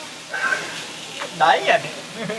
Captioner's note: laughs